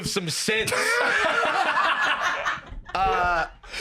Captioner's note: all laughing